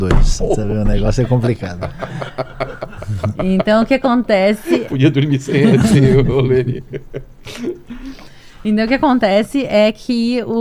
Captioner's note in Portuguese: risadas